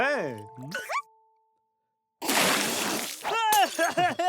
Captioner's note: caterpillar noises